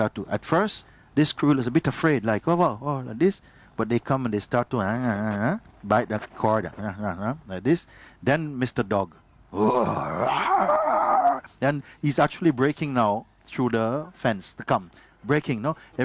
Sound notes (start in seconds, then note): 9.6 growling and barking noises